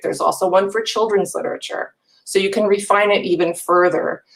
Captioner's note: none